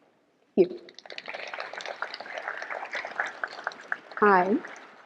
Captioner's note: audience applauding